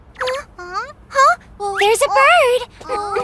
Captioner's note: gasps